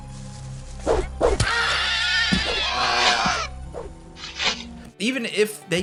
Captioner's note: characters screeching